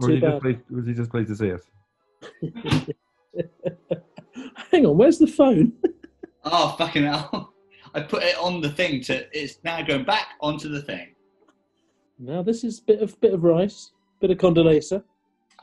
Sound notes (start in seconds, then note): 3.3 giggling; 3.3 chuckling